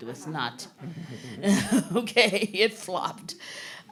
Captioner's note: chuckling; group laughing